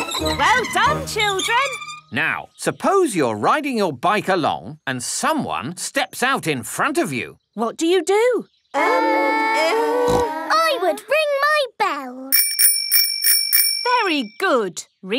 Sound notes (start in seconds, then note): 10.0 peppa snorts; 12.3 rings bell